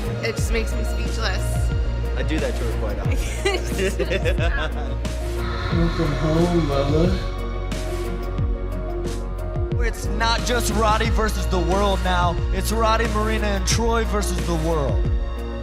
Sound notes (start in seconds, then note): 3.0 laughter